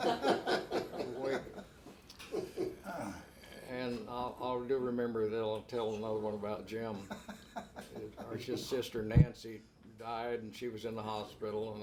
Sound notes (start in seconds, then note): 0.0 both laugh; 7.2 laughs